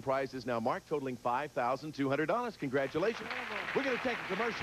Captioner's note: audience applauding